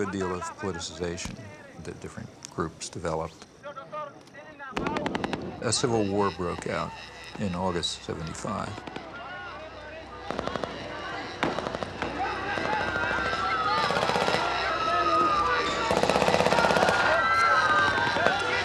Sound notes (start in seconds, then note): 4.0 speaking in foreign language; 4.7 gunshots booming; 8.7 gunshots booming; 8.7 speaking in foreign language; 13.6 people screaming; 13.7 gunshots booming